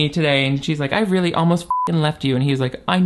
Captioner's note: beep